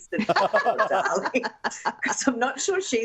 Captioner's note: laughter